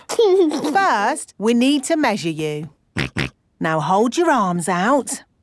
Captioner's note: snorts